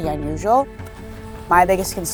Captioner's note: footsteps